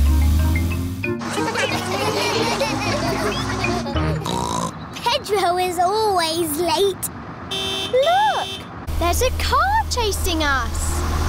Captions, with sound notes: (LAUGHTER) (SNORTS) Pedro is always late. -(HORN HONKS) -Look, there's a car chasing us!